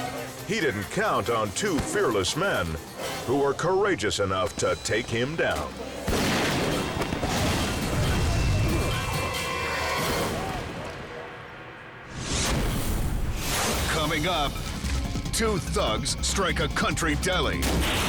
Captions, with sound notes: He didn't count on two fearless men who were courageous enough to take him down. (gun shot) (squashing sound) Coming up, two thugs strike a country deli.